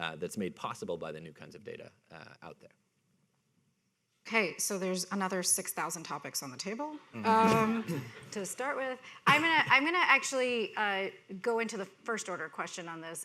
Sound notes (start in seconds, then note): 7.2 people laughing